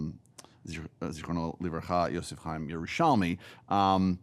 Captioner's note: speaking in foreign language